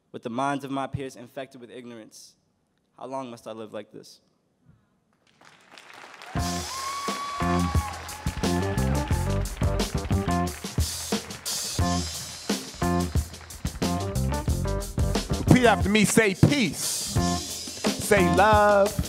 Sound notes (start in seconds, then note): 5.4 audience cheering; 6.4 upbeat music